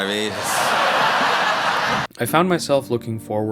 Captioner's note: laughter